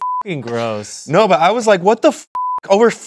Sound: beep; beep

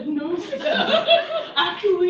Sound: laughter

